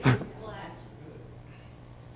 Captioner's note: laughter